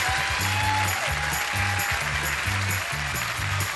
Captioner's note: cheering